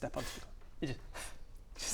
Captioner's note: pff